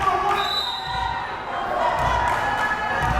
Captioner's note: whistle blares; crowd cheering